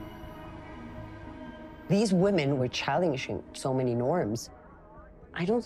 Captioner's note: in English